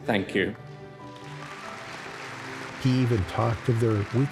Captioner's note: audience cheering